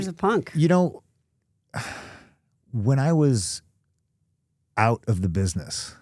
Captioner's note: sighs